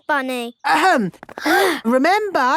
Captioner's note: all gasp